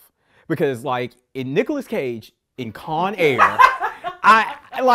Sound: laughing

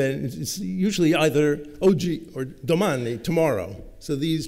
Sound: italian

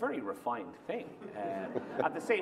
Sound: laughter

